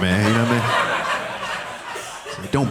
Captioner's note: audience laughing